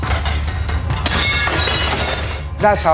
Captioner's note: clang; glass shatters